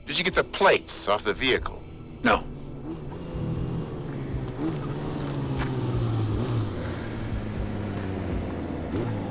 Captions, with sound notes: - DID YOU GET THE PLATES OFF THE VEHICLE? - NO. [car engine rumbling]